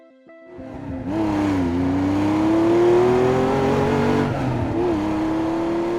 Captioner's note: cars accelerating